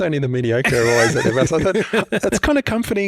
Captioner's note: laughing